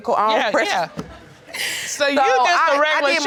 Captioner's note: laughs